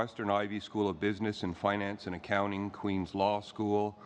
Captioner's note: speaking french